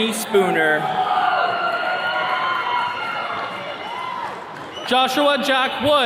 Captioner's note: attendees cheering